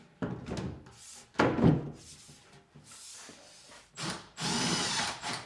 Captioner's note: wood thudding; drill whirring